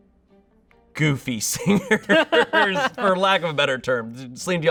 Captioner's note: laughs